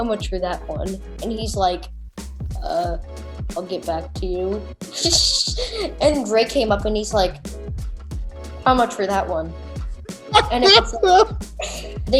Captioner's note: laughs